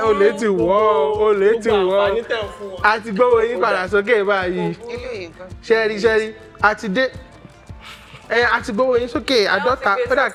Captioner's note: laughs